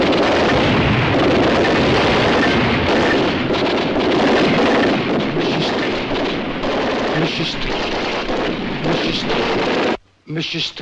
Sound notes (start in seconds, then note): 2.5 machine Gun Fire Continues; 5.4 murmuring